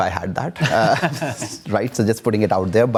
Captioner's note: laughs